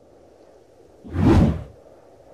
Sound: whoosh

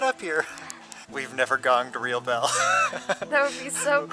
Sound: laughter

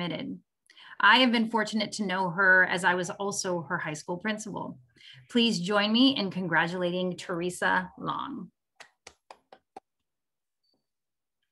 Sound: claps

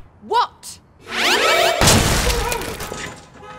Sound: psychic sounds; bloody explosion; screams

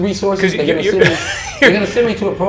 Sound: interviewer laughs

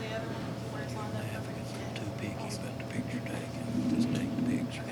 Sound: faintly speaking

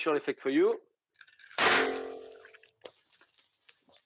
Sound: banging noise

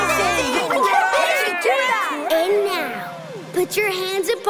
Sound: cheering

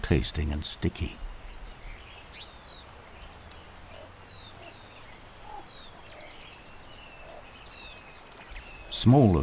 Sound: birds chirping

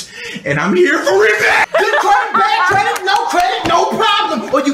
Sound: laughs

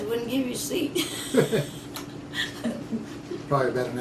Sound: laughter

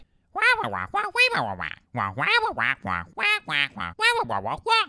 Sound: binary squawking

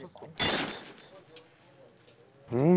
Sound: silent

